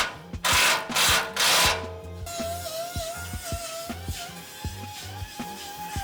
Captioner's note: drill whirring